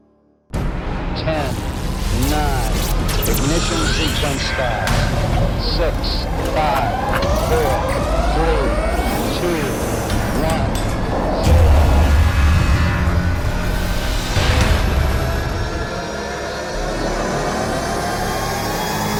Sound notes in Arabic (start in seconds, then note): 0.3 موسيقى درامية; 6.7 رنين صفارة الإنذار; 12.0 تستمر الموسيقى الدرامية